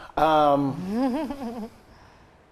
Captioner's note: chuckling